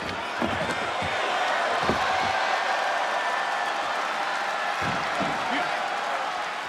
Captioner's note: audience applauds and cheers